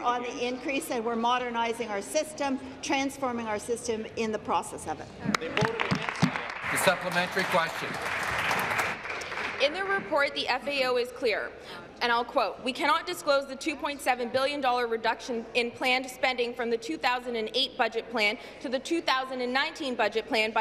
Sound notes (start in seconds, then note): 8.6 applause